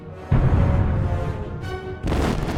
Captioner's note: boom